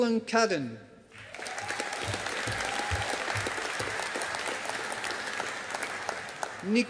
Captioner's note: audience applauding